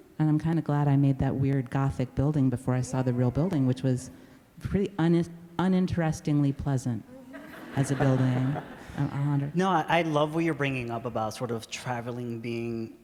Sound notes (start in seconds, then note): 7.2 laughter